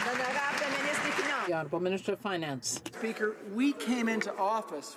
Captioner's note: some Applause